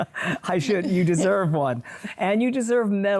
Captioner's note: both laugh